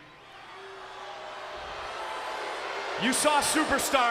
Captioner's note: crowd boos